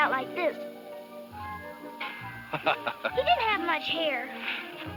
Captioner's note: laughs